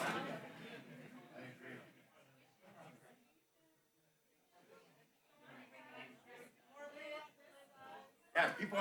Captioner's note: background chatter